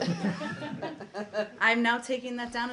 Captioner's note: laughter